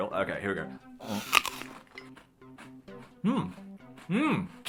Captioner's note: crunches on cereal